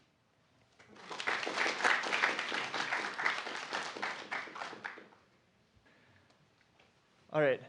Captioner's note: applause